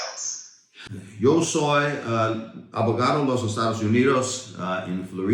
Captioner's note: speaking foreign language